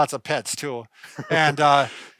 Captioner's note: laughing